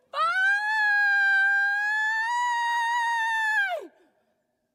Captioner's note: screaming loudly